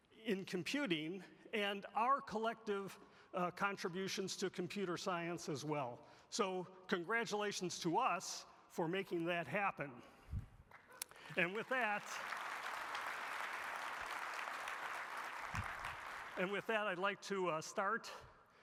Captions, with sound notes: in computing and our collective contributions to computer science as well. So congratulations to us for making that happen. And with that... (audience applauding) And with that, I'd like to start.